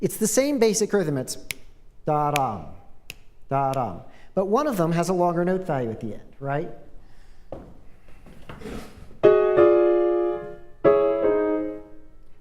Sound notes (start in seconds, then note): 3.0 snap, snap; 3.0 snaps; 9.2 piano Music